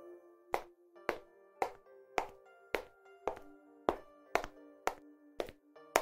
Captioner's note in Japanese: ヒールの靴で歩く音